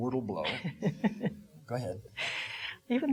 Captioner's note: laughing